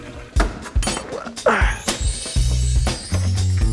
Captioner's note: equipment clanks; heaves; upbeat guitar music